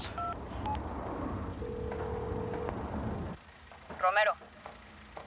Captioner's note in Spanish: Sonido al marcar el celular